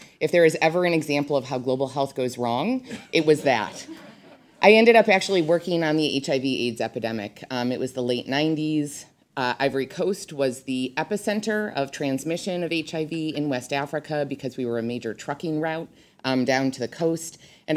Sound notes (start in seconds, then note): 3.0 audience laughs